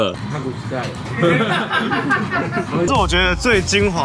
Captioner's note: the boss laughs wildly to brush it off